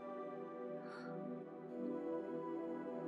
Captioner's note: Gasps